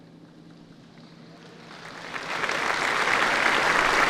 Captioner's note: applause